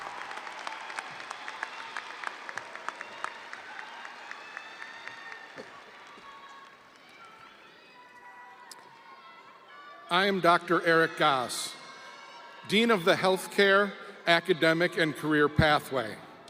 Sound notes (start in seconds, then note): 2.9 audience applauding; 2.9 audience cheering